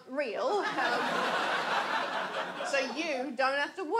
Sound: audience laughs

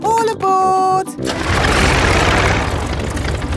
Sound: plane engine starts

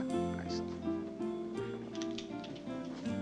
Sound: clattering

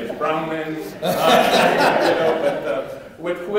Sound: laughing

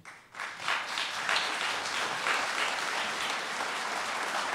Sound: applause

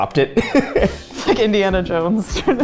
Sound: laughing

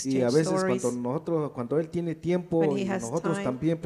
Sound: speaks in foreign language

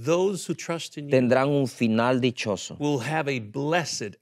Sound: speaking in Spanish

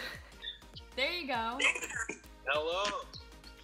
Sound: laughs

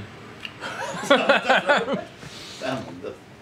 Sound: both laugh

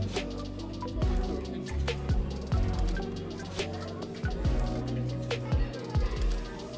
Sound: laughs

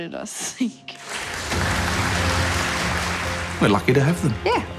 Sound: audience applauding

